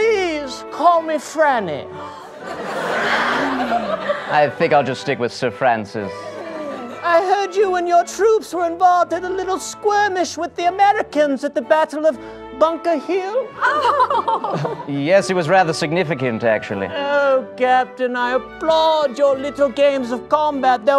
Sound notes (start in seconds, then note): 13.6 affected laugh